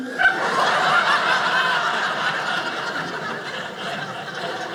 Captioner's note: audience laughing